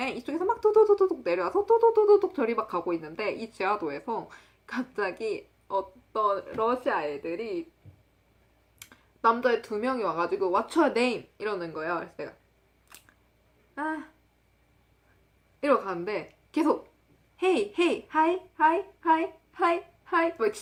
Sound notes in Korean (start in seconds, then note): 12.9 씹음